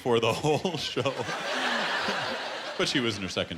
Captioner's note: laughter